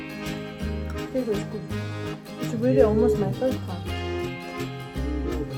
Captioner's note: haha